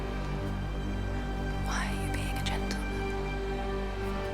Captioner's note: whispering